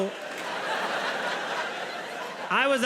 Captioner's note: audience laughs